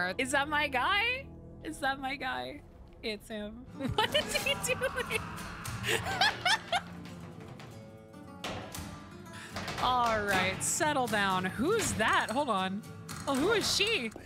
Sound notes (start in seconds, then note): 3.8 laughing; 5.7 laughter